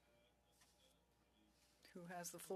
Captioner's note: speaking French